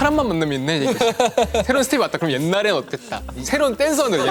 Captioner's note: haha / Haha